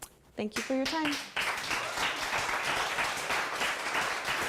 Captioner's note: applause